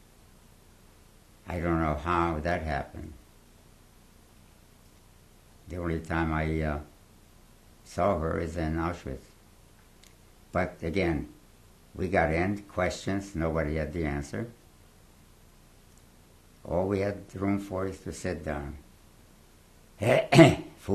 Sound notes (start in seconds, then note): 3.1 pauses for 3 seconds